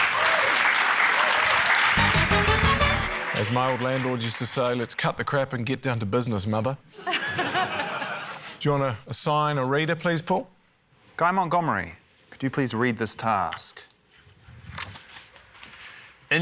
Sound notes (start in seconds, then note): 0.0 cheering, applause; 7.0 laughter